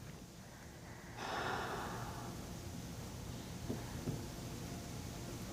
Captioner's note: exhaling